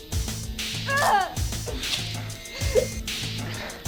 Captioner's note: grunting; crying